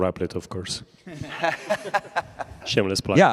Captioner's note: laughter